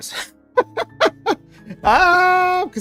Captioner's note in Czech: smích